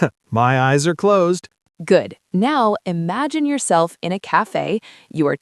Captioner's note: laughs